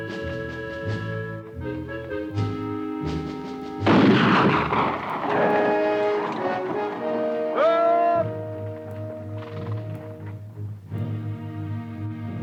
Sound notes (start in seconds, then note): 3.8 gun fires